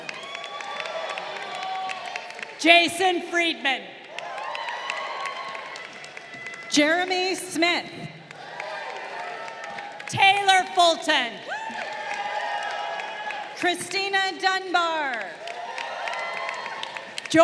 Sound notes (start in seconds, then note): 0.2 crowd cheering; 4.3 crowd cheering; 8.4 crowd cheering; 11.8 crowd cheering; 15.2 crowd cheering